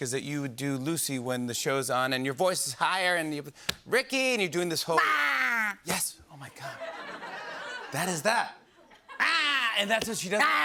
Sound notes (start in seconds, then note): 6.6 laughter